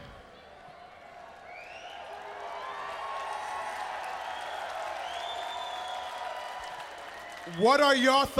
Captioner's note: crowd cheering